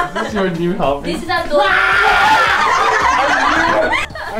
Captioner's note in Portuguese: gritos